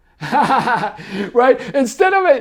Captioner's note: laughing happily